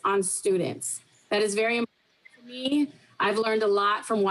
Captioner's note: faintly speaking